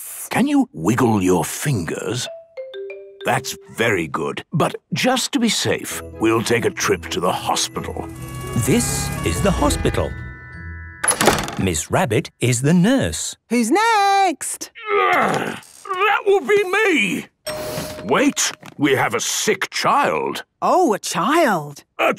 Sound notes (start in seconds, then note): 2.3 wiggle music; 8.1 siren sounding; 17.4 door dings open